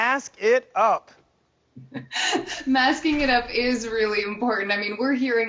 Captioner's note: laughing